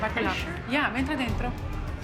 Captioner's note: speaking Italian